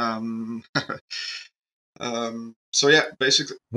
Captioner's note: laughs